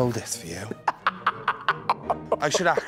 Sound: laughing

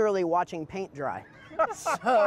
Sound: laughter

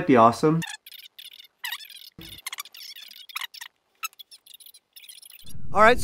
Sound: high-pitched fast-forwarded whirring

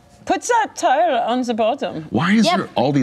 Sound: imitates German accent

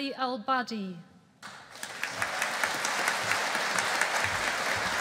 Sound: audience applauding

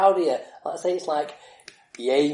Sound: clapping hands

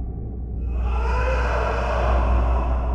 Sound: ghostly voice

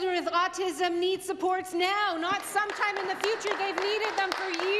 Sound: some Applause

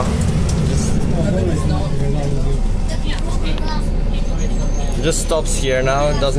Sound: bus Noises and General Chatting

